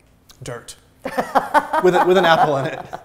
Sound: laughing

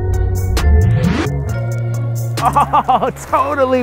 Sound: fire crackles

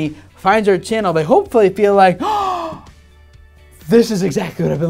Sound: gasp

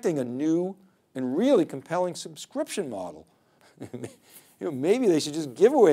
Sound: laughing

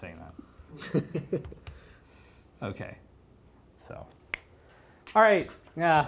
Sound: laughter

